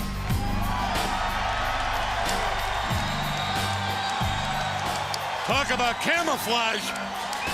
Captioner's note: crowd cheering